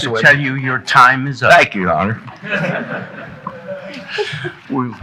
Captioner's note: audience chuckling